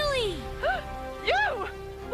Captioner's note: gasp